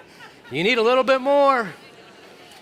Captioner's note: congregation talking